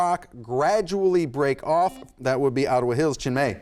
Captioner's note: buzzer sounds